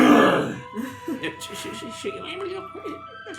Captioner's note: snarls